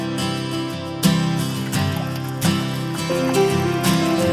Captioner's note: water pouring